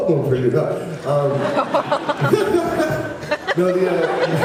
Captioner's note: laughs